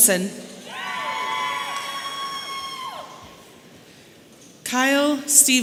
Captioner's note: audience cheering